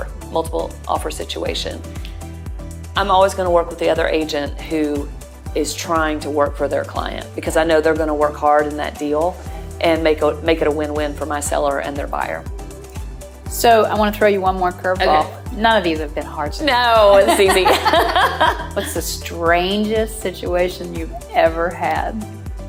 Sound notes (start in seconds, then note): 17.1 laughing